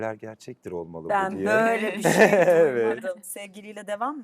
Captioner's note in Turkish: kahkaha